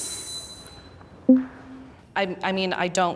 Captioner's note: wind screeching; bell dings lightly